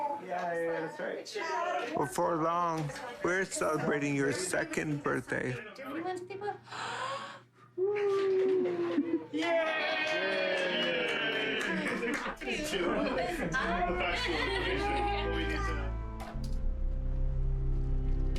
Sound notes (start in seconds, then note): 9.3 cheering and clapping; 15.7 subtle music